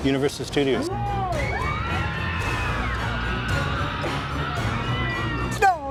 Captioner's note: crowd screaming